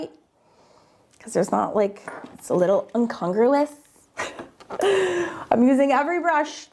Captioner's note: laughs